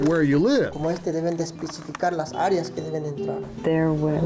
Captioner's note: speaking in Spanish